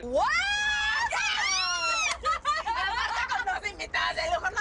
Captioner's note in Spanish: Risas